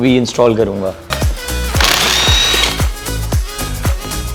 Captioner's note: wrench motor whirring sound